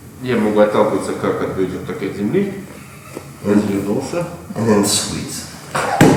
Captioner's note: speaking in a foreign language